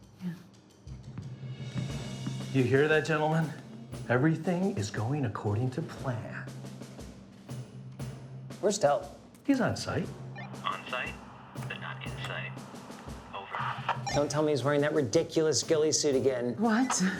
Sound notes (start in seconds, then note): 6.9 dramatic music; 13.3 radio bleeping